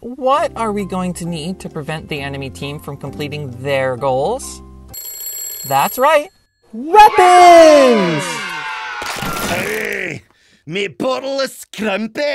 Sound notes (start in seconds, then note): 5.6 alarm bells